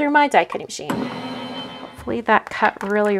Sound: die-cut machine whirs

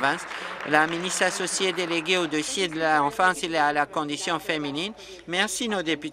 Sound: applause

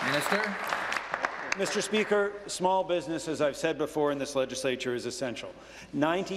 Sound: applause

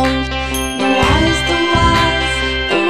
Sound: ding

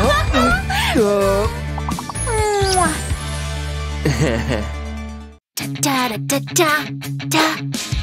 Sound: making happy sounds

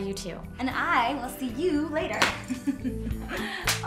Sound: chuckling

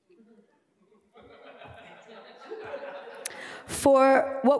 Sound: laughter

